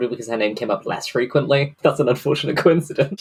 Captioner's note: laughing